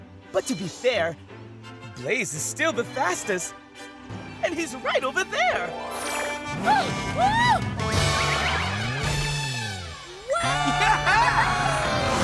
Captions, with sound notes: but to be fair, Blaze is still the fastest, and he's right over there. [honking, gasping] [cheering]